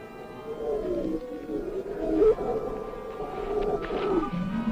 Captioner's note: growling nearby